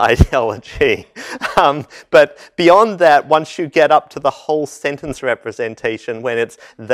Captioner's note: laugh